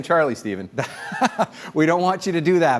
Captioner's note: laugh